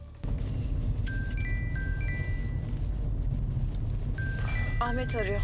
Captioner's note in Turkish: Telefon çalıyor